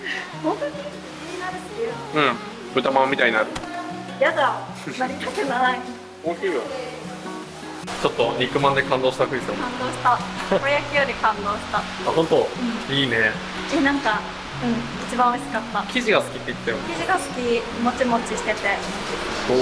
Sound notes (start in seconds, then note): 7.2 laughs